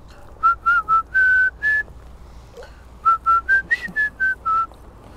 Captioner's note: whistling